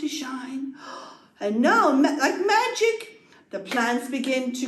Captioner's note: gasp